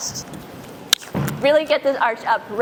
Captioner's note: pow